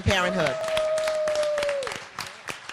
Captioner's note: applause